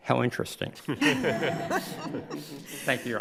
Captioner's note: crowd laughs